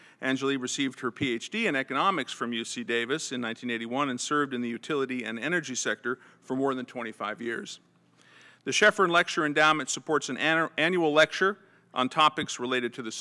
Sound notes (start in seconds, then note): none